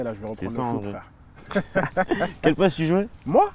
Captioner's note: laughs